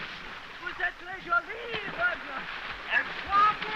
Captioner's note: speaking french